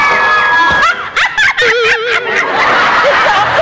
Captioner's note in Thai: เสียงหัวเราะ